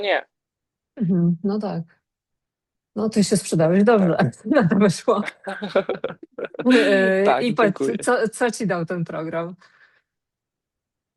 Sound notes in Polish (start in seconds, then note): 5.2 śmiech